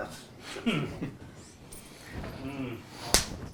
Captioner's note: chuckling